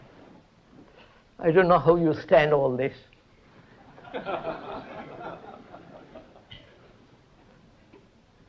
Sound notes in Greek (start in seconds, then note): 3.8 γέλια